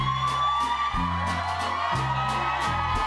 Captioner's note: cheers and applause